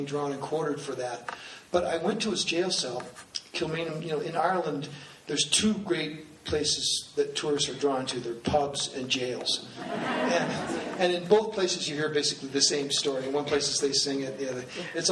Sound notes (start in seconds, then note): 9.8 laughing